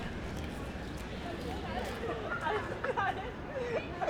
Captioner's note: park ambient sound